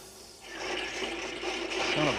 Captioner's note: forge squeaking